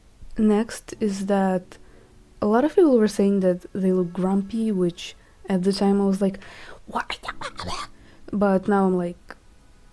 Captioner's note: angry noises